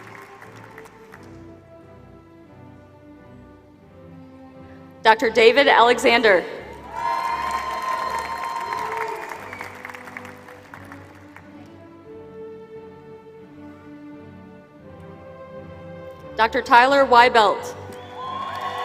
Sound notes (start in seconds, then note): 0.0 applause; 6.7 applause; 17.8 applause